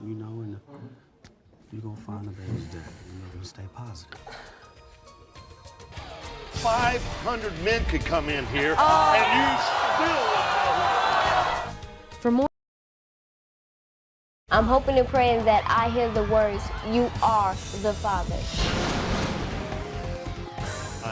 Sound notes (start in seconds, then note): 11.6 crowd yelling; 12.5 voiceover